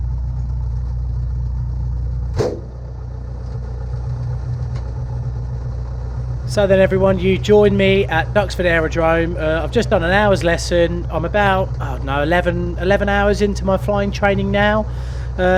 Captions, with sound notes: (door slamming) - [Voiceover] So then everyone you join me at Duxford Aerodrome I've just done an hour's lesson. I'm about 11 hours into my flying training now.